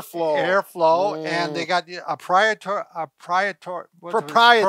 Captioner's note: mispronounces word